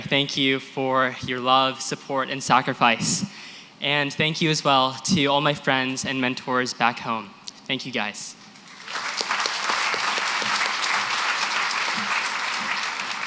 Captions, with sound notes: Thank you for your love, support, and sacrifice. And thank you as well to all my friends and mentors back home. Thank you guys. [APPLAUSE]